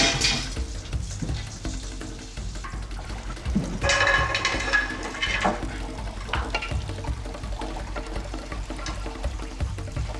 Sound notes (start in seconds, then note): 4.2 pans clattering